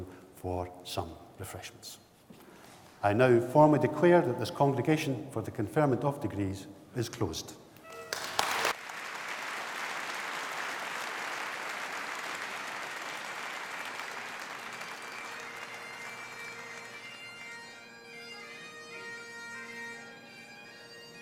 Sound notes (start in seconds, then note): 7.9 applause